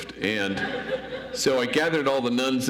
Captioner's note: audience laughs